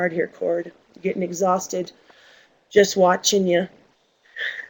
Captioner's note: laughs